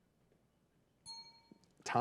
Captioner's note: bell rings